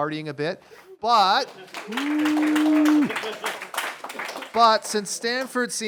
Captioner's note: applause and cheering